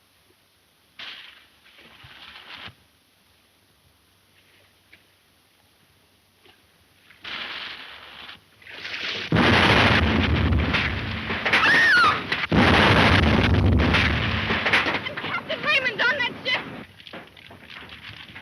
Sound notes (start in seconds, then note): 9.2 ship exploding; 11.6 Mary shrieks